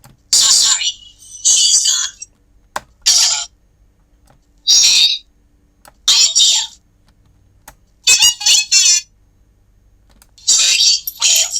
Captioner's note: droid sounds